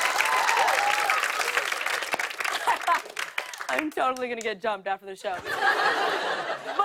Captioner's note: laughs